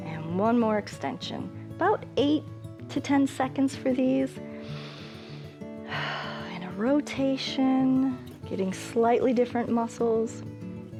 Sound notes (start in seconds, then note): 4.5 inhales and exhales